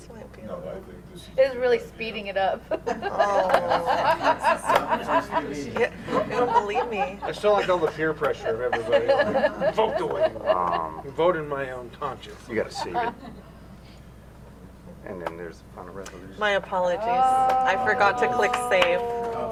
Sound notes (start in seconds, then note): 2.5 laughter